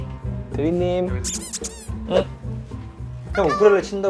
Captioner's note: hesitant